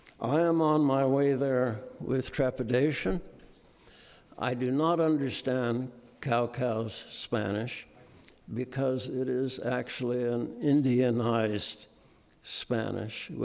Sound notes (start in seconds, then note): none